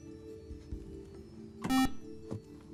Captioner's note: beeping